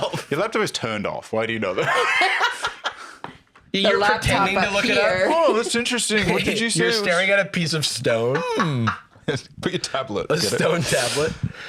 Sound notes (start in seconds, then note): 2.4 laughs